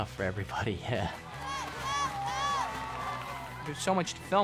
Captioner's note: cheering, clapping